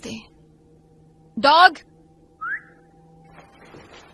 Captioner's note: whistles